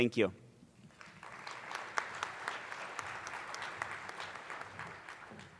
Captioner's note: attendees applauding